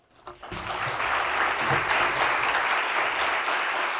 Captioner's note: audience claps